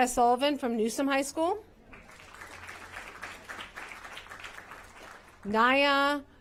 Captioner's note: applause